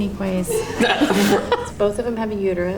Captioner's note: laughter